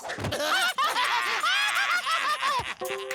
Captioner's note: laughing